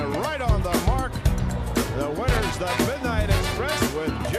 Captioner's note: bell ringing